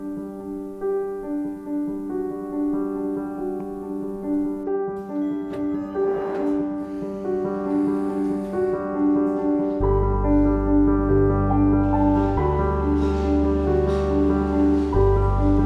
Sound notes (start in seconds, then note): 4.9 transit beeping; 5.7 soft piano music